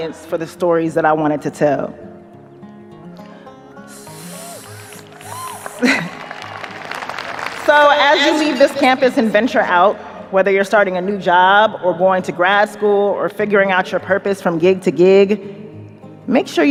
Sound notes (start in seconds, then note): 3.8 chuckles; 3.8 audience cheers, applauds